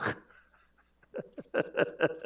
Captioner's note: laughs